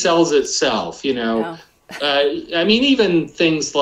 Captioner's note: laughs